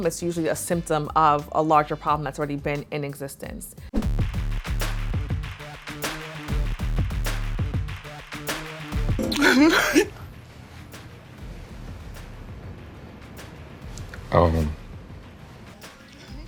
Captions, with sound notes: It's usually a symptom of a larger problem that's already been in existence. (intense music) (woman sobbing) - Um.